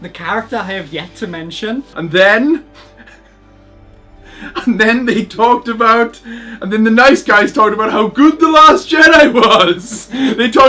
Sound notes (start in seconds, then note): 2.7 laughs